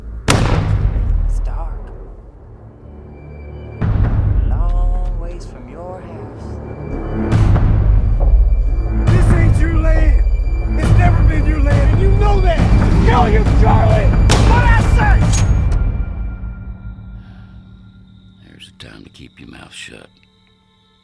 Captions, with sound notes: (gunshot) It's dark... ...you're a looong ways from your house. This ain't your land. It's never been your land, and you know that. I'm gonna kill you, Charlie! (gunshot) What did I say? There's a time to keep your mouth shut...